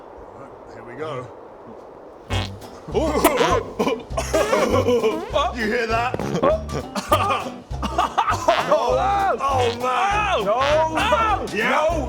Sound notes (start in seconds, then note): 4.3 farting cloud noises